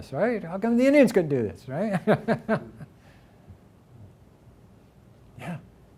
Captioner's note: laughs